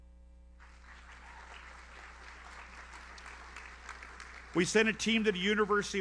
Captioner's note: audience applauds